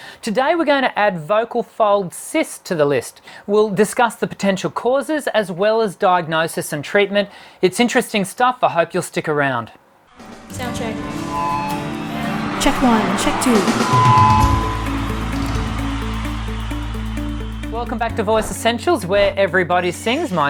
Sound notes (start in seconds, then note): 11.9 feedback whine; 14.0 audience cheering; 14.0 feedback whine; 14.9 upbeat melodic music